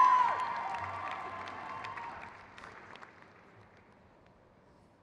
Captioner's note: crowd cheers